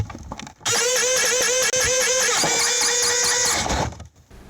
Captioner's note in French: la pompe grince